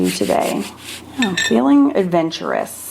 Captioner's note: brush whirring